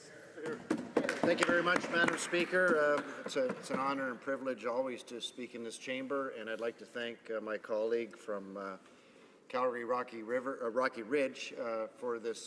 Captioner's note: some Applause